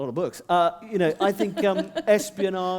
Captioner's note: laughter